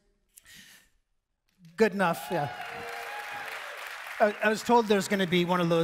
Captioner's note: audience cheering